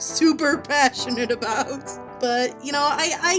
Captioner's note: laughing